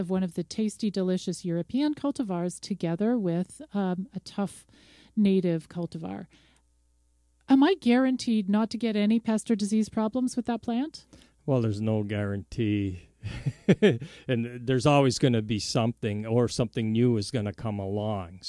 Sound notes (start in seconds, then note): 13.2 laughs